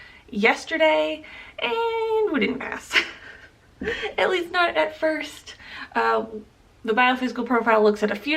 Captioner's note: chuckle